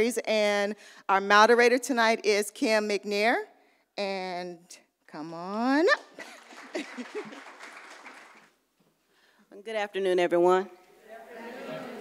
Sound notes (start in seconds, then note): 6.1 audience applauds